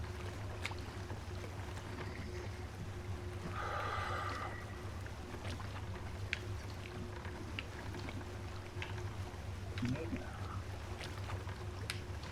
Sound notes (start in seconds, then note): 3.5 breathes deep